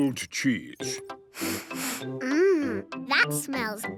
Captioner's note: sniffs